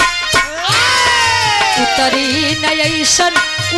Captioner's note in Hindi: चीखने की आवाज़